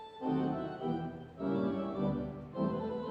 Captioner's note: none